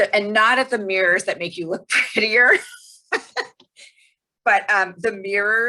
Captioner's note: laughing